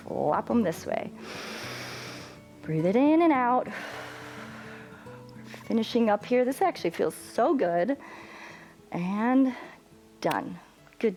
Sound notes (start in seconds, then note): 1.2 inhales; 4.7 exhales